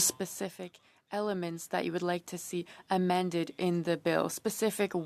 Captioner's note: speaking French